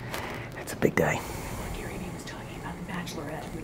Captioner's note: whispering